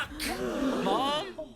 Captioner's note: crowd gasping